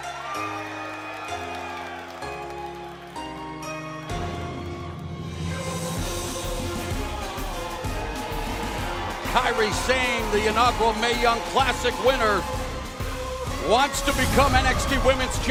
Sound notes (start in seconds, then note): 2.9 cheers and applause